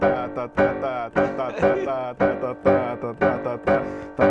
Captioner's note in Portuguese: rindo